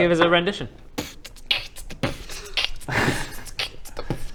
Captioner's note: beatboxing